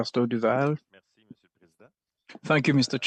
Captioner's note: speaking french